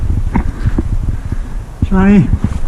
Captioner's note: scraping; heavy breathing